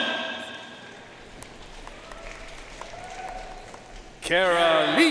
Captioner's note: audience cheering and applauding